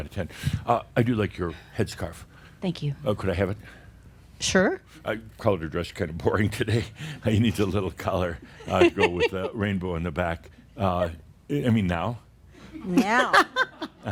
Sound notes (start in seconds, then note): 8.6 they chuckle; 13.0 some chuckles